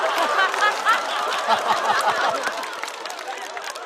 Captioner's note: haha